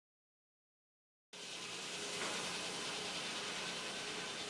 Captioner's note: machinery humming